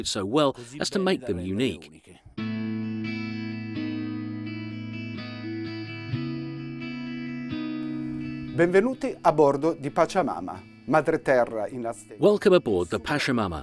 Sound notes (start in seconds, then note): 2.4 gentle music; 8.8 speaking foreign language